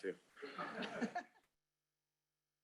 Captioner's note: laughter